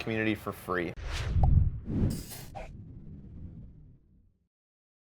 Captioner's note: logo swooshing